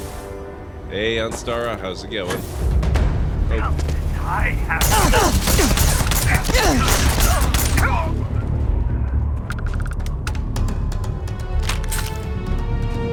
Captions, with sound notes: Hey, Ansara, how's it going? (Gunshots)